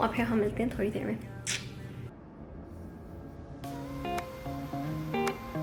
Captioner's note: car engine humming